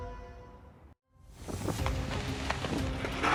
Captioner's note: suspenseful music; wind wooshing; shovel scraping